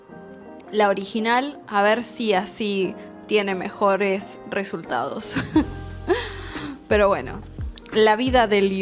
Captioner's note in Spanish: risas